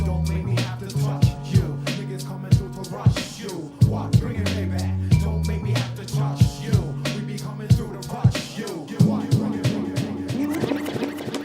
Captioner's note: applause